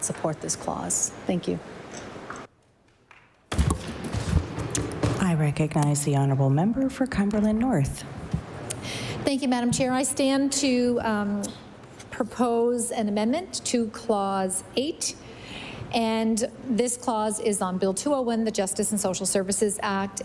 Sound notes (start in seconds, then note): none